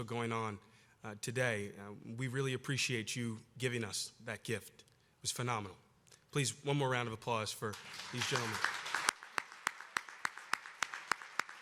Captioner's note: applause